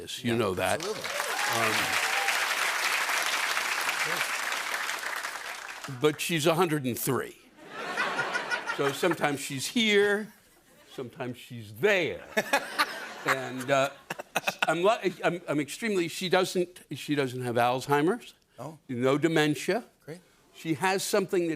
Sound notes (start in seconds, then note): 0.7 cheers and applause; 7.6 laughter; 12.2 laughter